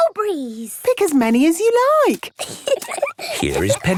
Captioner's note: giggling